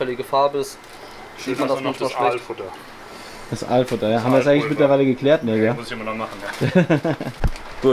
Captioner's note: laughs